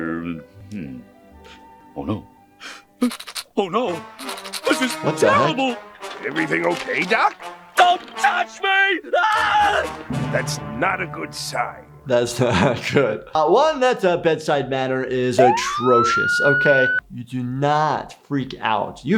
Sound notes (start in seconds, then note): 3.0 teeth clattering; 9.1 screams; 9.5 dramatic music playing